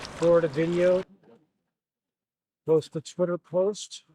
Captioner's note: water splashing